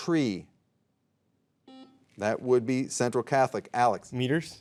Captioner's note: soft beeping